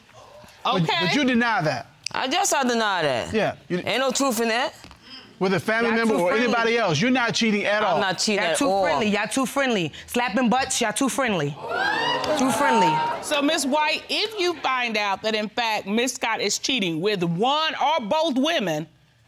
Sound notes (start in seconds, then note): 11.6 audience exclaiming